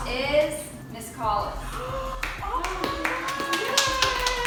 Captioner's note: applause